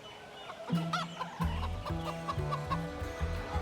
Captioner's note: hen clucks